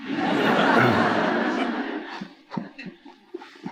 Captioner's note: audience laughing